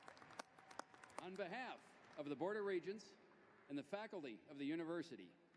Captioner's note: applause